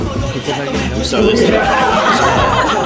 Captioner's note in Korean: 비명을 지른다